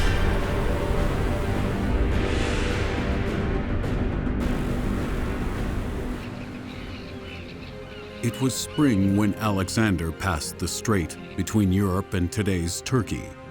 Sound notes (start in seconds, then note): 6.0 seagulls squawking